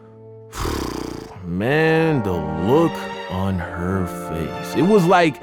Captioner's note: sighs